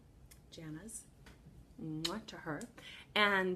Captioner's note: kiss